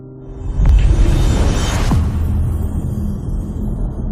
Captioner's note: dramatic sound